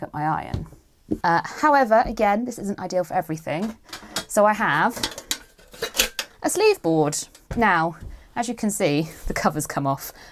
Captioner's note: creaking